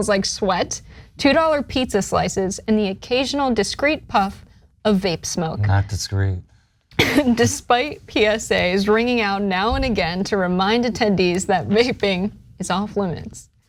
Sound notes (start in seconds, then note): 7.0 laugh